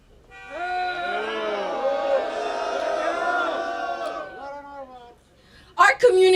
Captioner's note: crowd booing